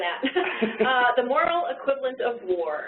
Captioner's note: laughing